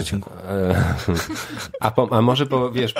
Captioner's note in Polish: śmiech